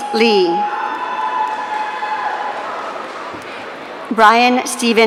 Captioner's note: audience cheering